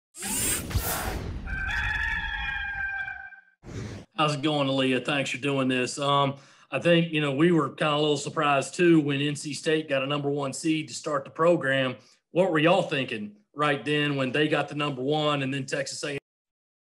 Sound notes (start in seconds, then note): 0.2 whooshing; 1.4 rooster crowing